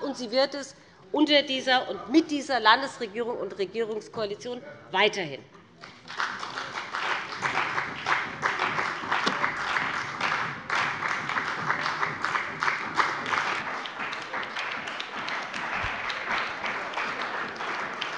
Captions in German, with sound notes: und sie wird es unter dieser und mit dieser Landesregierung und Regierungskoalition weiterhin tun. (Lebhafter Beifall bei dem BÜNDNIS 90/DIE GRÜNEN und der CDU)